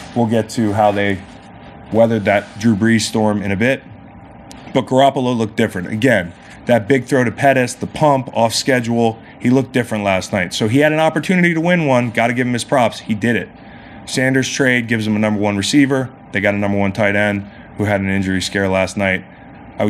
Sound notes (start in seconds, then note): none